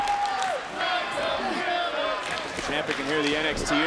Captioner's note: audience chanting